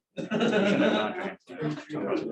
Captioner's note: laughter